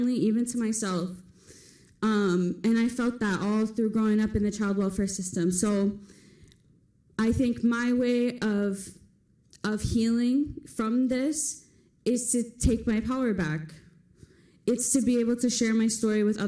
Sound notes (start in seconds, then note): none